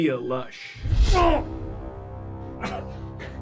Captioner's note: grunts